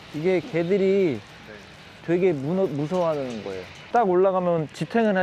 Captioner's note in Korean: 흔들흔들